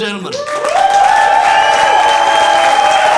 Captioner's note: audience applauding